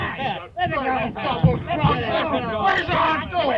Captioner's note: men shouting